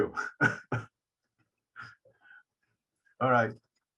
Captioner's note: laughing